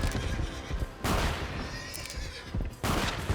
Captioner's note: gunshot